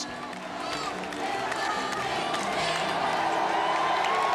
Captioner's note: crowd cheering